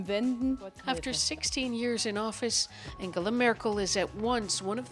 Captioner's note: speaking Foreign Language